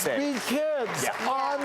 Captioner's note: audience applauds